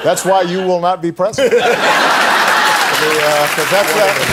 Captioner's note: audience laughing